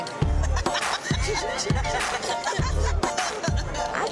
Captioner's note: girls laughing